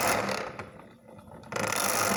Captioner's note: grinding sound